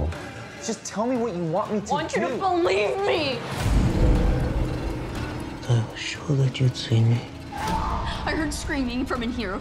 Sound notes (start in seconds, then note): 7.5 screams